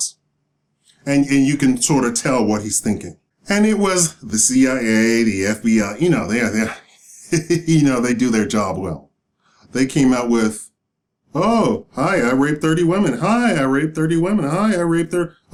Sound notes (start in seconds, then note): 6.8 laughing